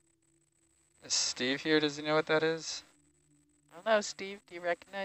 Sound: male Voice

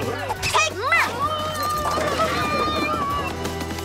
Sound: screaming

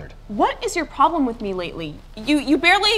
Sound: none

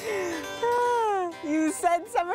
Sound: both laughing

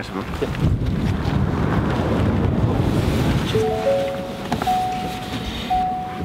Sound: wind gushing

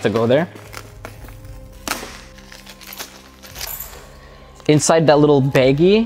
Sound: plastic rustles

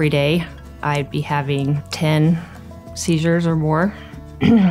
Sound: clears throat

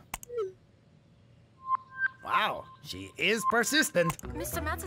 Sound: chiming

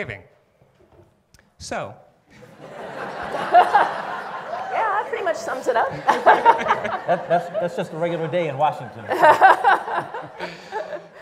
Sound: laughing

